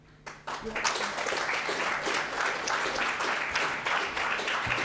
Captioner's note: audience applauding